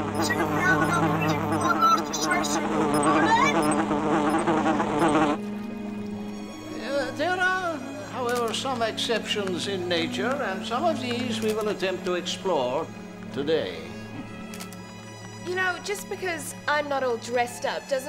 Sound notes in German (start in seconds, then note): 4.0 lautes Summen